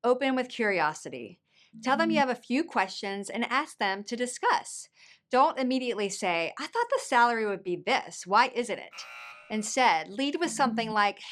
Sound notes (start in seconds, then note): 8.9 buzzer ringing